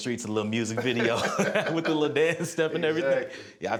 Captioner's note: both laughing